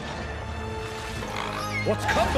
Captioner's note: squeaking